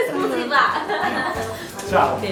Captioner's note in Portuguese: Risadas